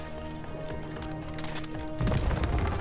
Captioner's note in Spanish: hielo se quiebra